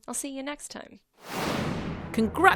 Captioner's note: air whooshing